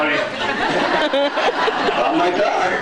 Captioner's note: laughing; laughs